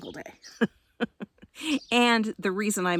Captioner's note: laughs